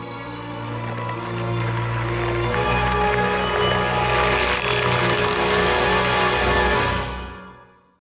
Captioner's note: crackling